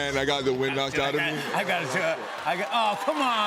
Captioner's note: laughter